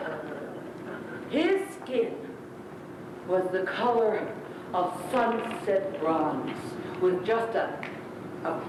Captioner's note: snap